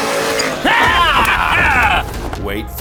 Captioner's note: screams